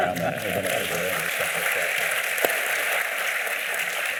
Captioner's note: applause